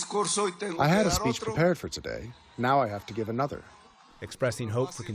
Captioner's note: through translator